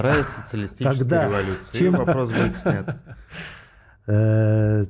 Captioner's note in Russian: смех